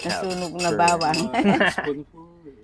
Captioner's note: laughs